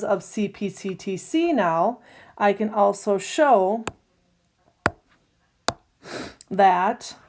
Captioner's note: tapping sound